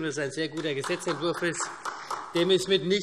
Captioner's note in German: Beifall